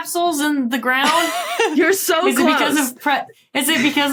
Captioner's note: laughs